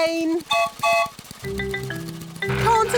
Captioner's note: whistle blows